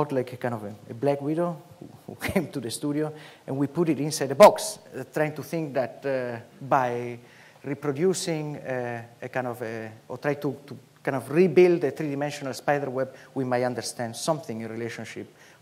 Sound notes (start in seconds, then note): none